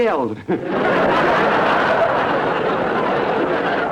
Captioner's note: audience laughter